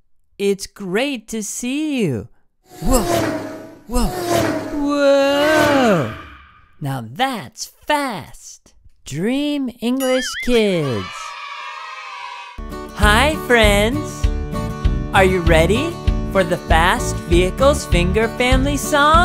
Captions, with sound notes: It's great to see you. (vehicle sounds: vroom) Now that's fast. Dream English kids Hi friends, are you ready for the fast vehicles finger family song?